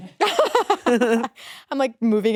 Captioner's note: laughing